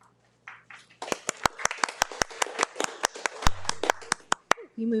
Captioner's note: participants applauds